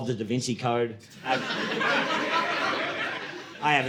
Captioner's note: audience laughing